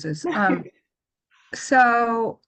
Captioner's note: laughs